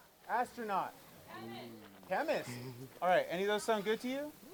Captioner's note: none